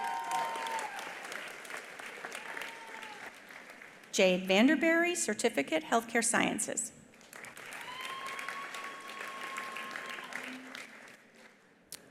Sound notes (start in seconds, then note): 0.0 attendees applauding; 7.2 attendees applauding; 7.8 attendee cheering